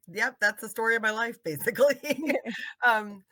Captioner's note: laughing